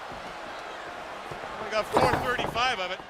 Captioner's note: crowd cheering